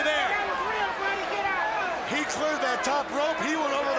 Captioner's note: crowd chatter